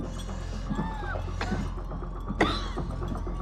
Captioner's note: wheezing and coughing